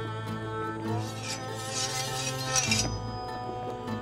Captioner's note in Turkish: Kılıç çekme sesleri